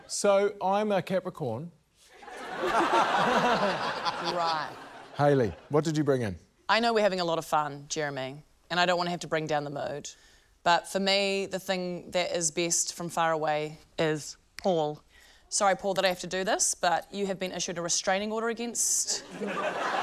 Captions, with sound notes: - So, I'm a Capricorn. (LAUGHTER) - Right. - Hayley, what did you bring in? - I know we're having a lot of fun, Jeremy, and I don't wanna have to bring down the mood. But for me, the thing that is best from far away is Paul. (SNAPS FINGERS) Sorry, Paul, that I have to do this, but you have been issued a restraining order against...